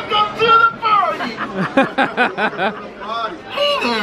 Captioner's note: laughing